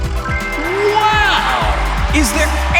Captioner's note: cheering